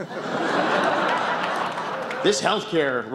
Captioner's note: laughter